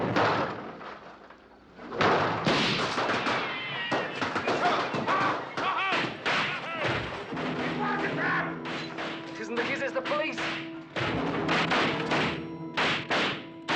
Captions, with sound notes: [gunshot] - [fireworks exploding] - [yelling] It was a trap! It isn't the kids, it's the police. [explosions continue]